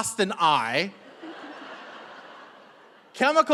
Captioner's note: audience laughing